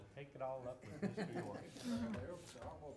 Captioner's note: laughing